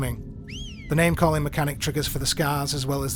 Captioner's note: whistle